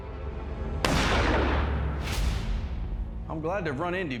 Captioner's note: gunshot